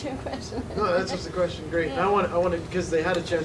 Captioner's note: laughing